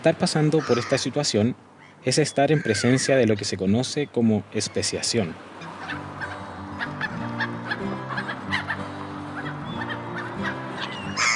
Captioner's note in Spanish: Sonido de gaviotas